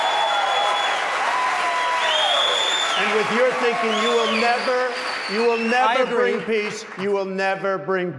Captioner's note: applause